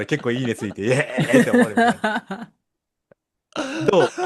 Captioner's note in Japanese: 笑い